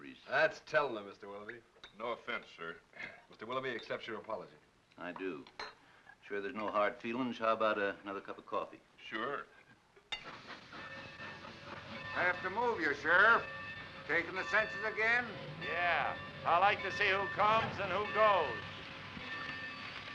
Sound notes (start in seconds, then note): 10.3 train chugs softly